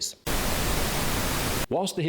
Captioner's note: static blaring